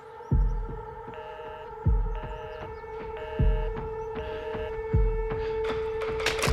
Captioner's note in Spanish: Tono en la línea